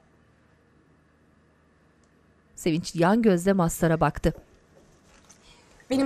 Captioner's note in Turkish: Sessizlik